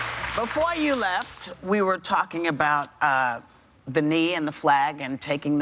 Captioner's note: applause